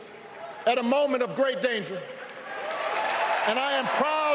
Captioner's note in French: applause